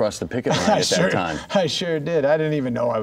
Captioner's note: laughing